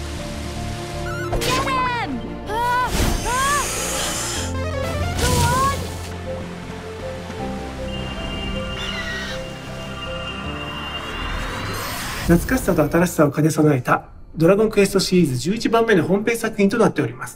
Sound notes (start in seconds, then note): 1.1 gameplay sounds; 12.1 in Japanese